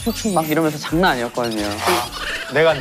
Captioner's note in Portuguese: Risos